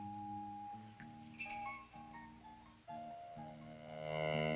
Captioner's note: key jingles